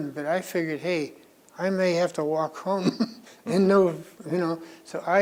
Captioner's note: laughs